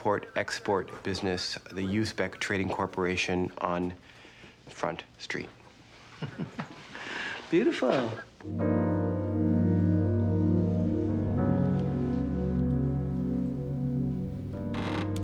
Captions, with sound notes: The Uzbek Trading Corporation on Front Street. (chuckling) - Beautiful.